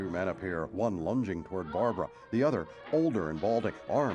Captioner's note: screams